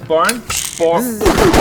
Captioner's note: cylinder spins